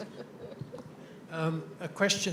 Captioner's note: laughing